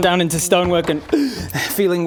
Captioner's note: gasping for breath